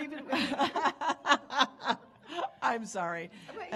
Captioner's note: panelist laughing